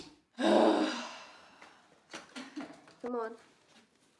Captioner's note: Arizona sighs